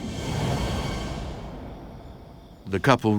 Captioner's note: swooshing